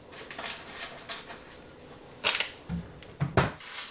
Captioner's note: paper rustling